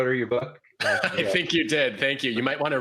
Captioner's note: laughs